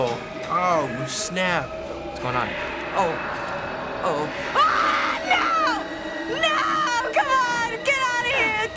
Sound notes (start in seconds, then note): 4.4 screams frantically